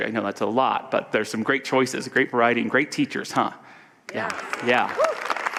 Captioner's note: audience applause and cheers